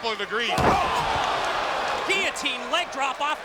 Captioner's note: mat thumping; crowd gasping